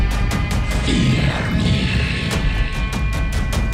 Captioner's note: demonic growling